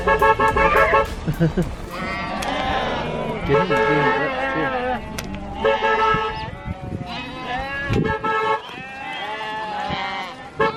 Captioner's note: honking sounds and animals noises